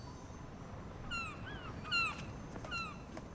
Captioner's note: seagulls squawking